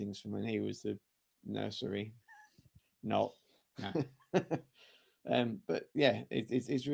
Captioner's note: laughter